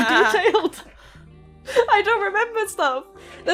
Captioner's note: laughter